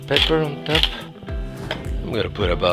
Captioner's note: whooshing